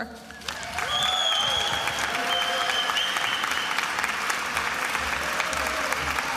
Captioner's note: attendees applauding and cheering